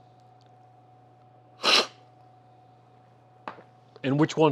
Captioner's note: sips